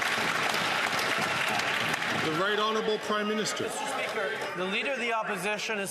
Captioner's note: some Applause